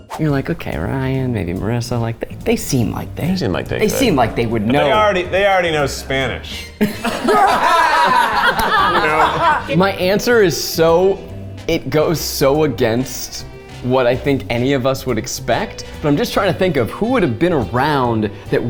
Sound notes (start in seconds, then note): 6.8 all laughing